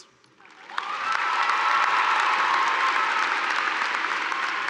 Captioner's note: audience cheering